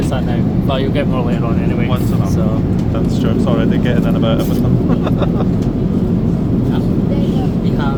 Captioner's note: laughs